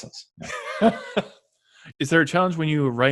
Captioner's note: laughs